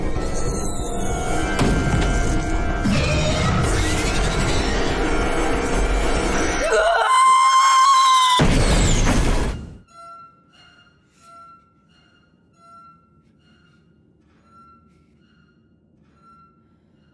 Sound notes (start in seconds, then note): 0.1 screeching; 6.5 screaming; 8.2 popping; 9.7 squeaking